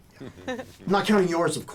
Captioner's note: both chuckling